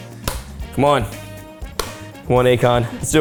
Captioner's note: hand smacking dish